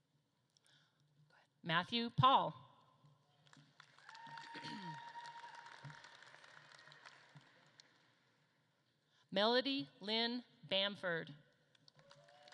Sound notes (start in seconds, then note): 3.4 audience claps and cheers